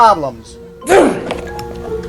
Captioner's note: grunt!